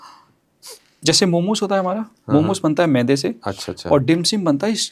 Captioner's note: nasal sound